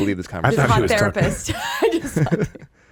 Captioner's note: laughing